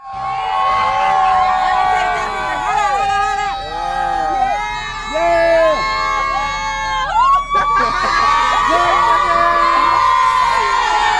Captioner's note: cheering